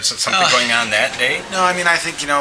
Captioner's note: laughter